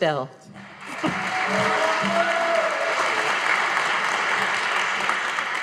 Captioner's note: audience applauding